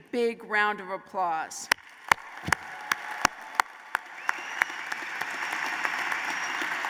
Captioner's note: applause